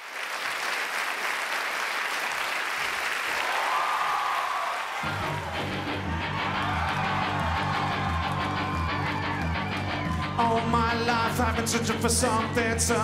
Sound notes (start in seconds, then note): 0.1 audience applauding; 3.8 audience cheering and applauding; 5.1 upbeat music